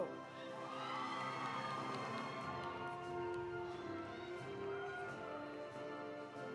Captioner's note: audience applauding; audience cheering